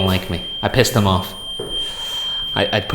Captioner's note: REM pod continues screeching